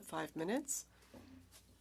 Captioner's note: speaking French